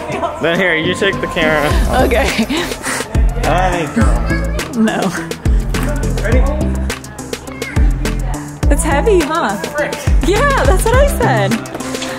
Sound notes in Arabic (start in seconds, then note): 4.8 يضحك كريستال